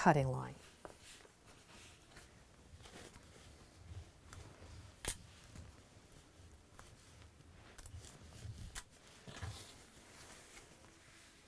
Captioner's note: no significant sound